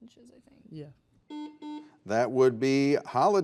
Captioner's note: buzzer buzzes